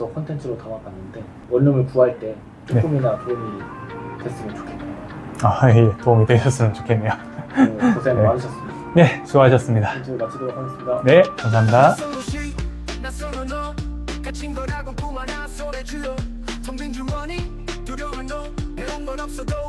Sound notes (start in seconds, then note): 6.4 laughs